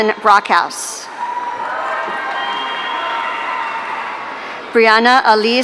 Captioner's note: audience cheering